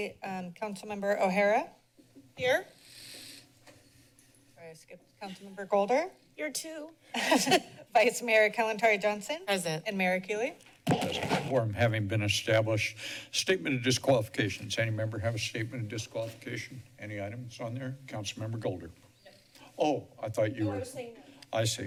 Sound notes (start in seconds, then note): 7.1 laughter